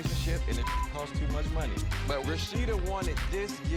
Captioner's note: beep